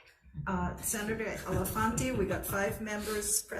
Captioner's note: committee members laugh